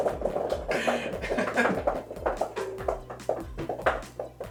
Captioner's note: laughs